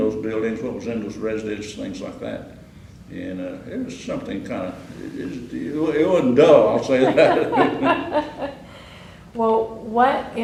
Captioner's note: laughter